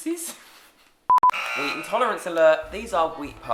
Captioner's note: buzzer